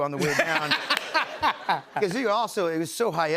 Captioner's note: laughs